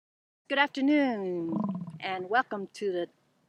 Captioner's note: buffalo grunting